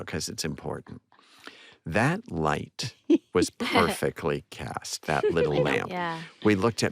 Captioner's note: giggles